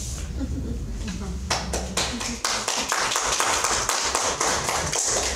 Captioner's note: audience chuckles and applauds